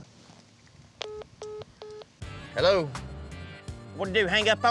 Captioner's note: phone beeps